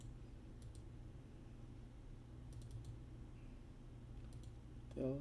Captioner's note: click